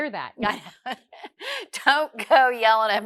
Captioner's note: laughs